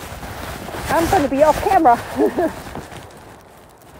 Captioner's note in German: lacht